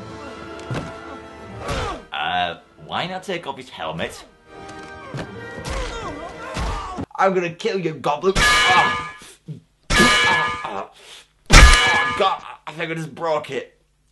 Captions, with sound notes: Uh, why not take off his helmet? I'm gonna kill you, Gobli- [Anvil sound] [Anvil sound] [Anvil sounds] Oh god, I think I've just broke it.